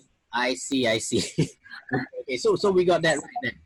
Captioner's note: laughs